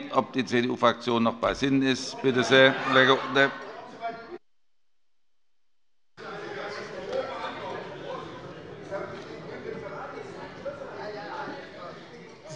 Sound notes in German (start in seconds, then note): 3.9 Allgemeine Heiterkeit